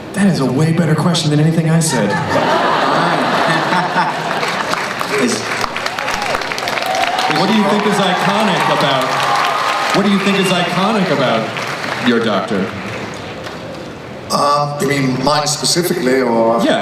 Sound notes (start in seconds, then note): 3.2 clapping